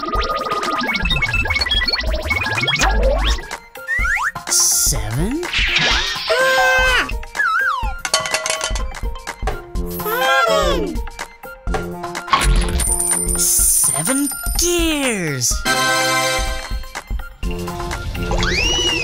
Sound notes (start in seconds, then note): 6.4 Gigglebot yells; 14.5 tada fanfare